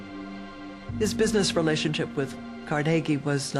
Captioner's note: subdued music; voiceover